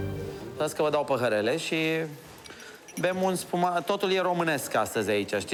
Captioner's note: speaking foreign language